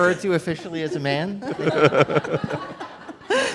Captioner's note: laughter